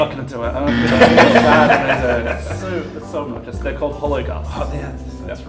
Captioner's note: buzzer